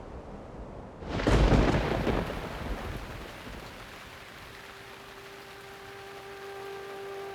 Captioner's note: sound of thunder and rain